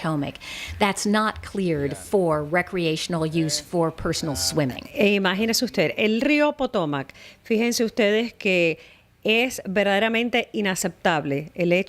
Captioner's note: Hablando ingl\s